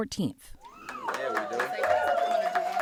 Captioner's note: group cheering